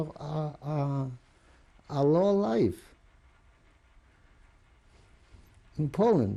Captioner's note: pauses for 3 seconds